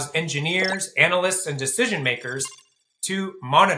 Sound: tab beeps

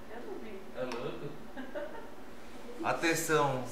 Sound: laughter

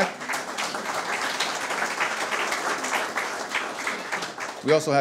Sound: audience applause

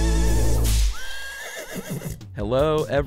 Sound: whip cracking and horse neighing

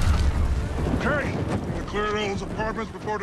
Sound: explosion

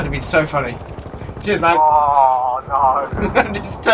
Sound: grumbles with despair; laughs

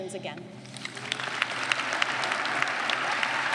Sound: clapping

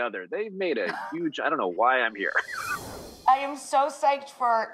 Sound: laughing

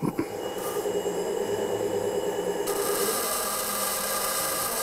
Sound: loud machine whirring, grinding noises

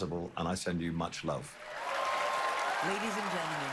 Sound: cheering, applause

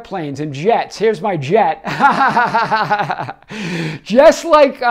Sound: laughs

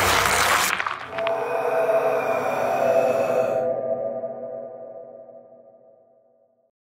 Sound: paper ripping; mysterious music; breath hissing

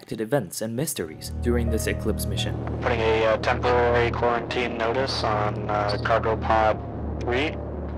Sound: on the radio

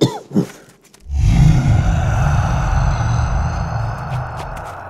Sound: ghostly voice

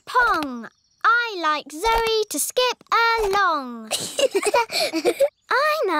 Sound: both laugh

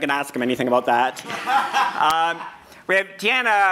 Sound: laughing

